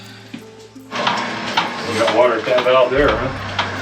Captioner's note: pump sump humming